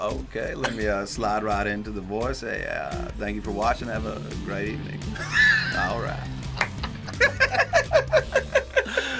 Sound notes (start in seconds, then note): 5.2 laughs; 6.6 both laugh